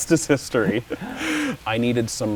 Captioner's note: laughs